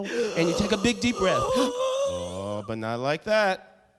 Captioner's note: heavy breathing